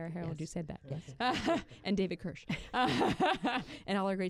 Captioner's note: laughter